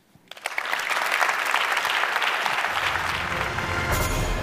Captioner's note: applause